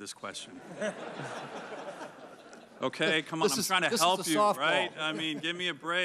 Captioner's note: laughter